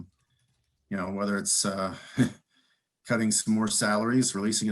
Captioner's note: chuckles